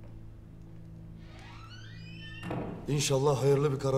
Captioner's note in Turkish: Kapı gıcırtısı sesi; Kapı kapanma sesi